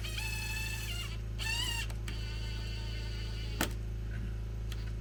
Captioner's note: drill whirring